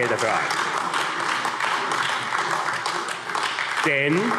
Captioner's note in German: Beifall AfD